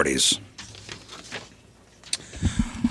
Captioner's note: chuckles